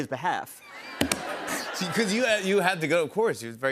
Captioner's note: laughter